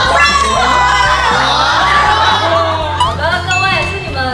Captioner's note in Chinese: 全場驚呼